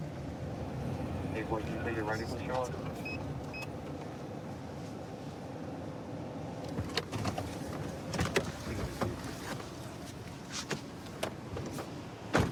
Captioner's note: indistinct dispatch speech